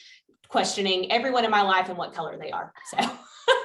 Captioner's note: laughter